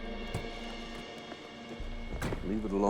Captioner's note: car door opens, closes